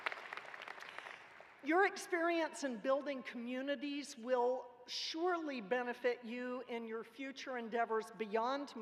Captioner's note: applause